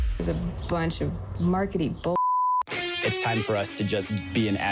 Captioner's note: beep